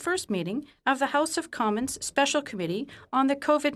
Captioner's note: speaking French